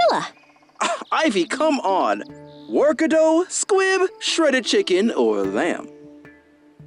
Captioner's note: scoffs